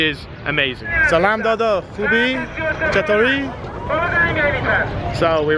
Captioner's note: foreign language